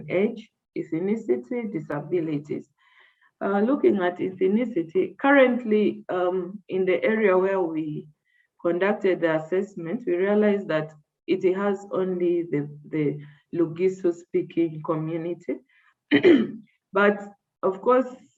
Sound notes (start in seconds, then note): 16.1 coughs